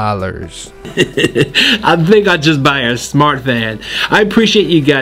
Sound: laughs

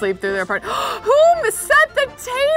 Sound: gasps

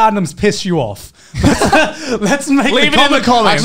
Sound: men laughing

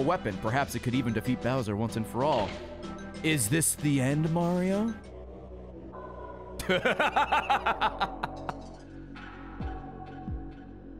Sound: laughs

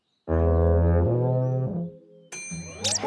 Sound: horn blowing; ringing; squeaking

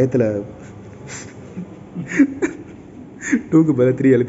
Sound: laughing

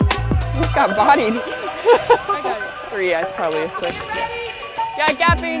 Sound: laughs

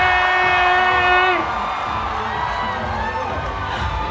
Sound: cheering

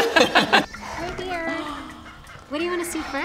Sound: animal noises

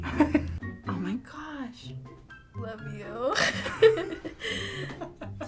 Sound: laughs

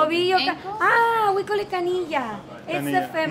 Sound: speaking in foreign language; speaks in foreign language

